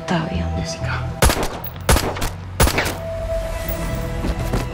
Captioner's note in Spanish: Disparos